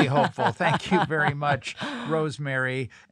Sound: laugh

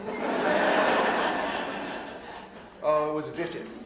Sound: audience laughing

